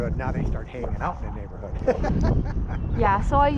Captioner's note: laughs